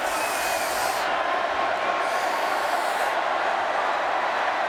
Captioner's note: Undertaker hissing